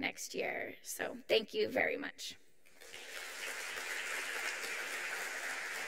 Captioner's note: audience applauds